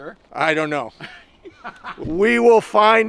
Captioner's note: laughing